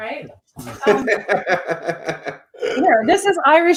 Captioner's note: laughs